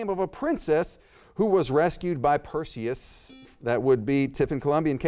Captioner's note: buzzer beeps